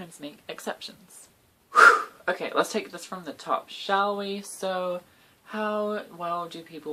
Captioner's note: overly dramatic exhale